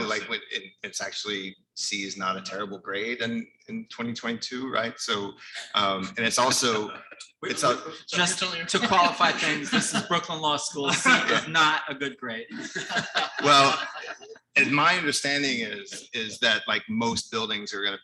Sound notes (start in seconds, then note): 12.4 all laughing